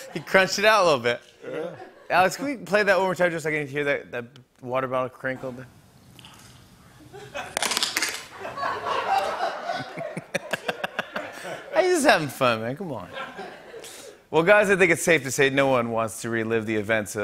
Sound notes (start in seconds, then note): 6.1 bottle crinkles softly; 7.5 bottle crinkles loudly; 8.3 laughter